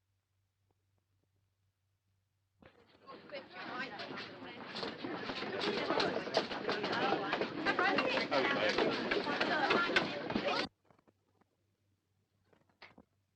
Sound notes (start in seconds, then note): 3.0 crowd noise